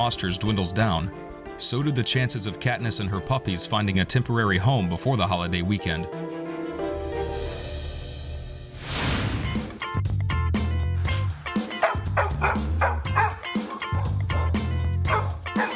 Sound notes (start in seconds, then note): 8.0 upbeat music; 8.7 frame whooshes; 11.7 dog barking